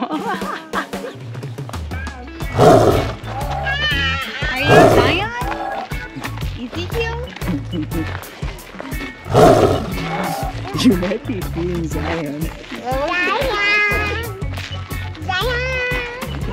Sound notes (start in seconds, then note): 0.2 laughs; 2.4 tiger growling sound effect; 9.2 tiger growling sound effect